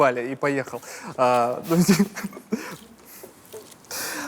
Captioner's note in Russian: смеются